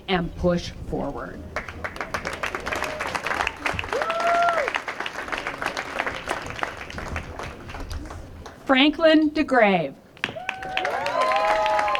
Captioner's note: applause; applause